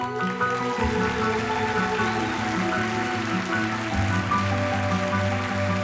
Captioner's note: audience applauding; gentle music